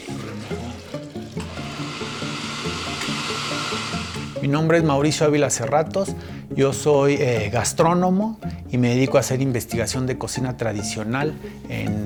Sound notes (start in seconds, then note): 1.4 blender whirring; 4.4 speaking in foreign language